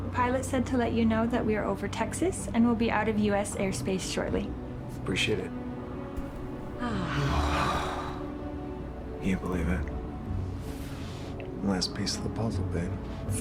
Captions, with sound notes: - The pilot said to let you know that we are over Texas and we'll be out of U.S. airspace shortly. - Appreciate it. (Sandy and Kent sighing) - Can't believe it. Last piece of the puzzle, babe.